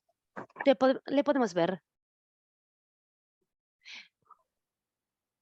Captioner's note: speaking in foreign language